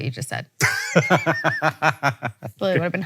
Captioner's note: Hank laughs